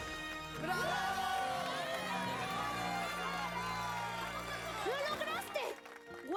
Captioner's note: loud cheering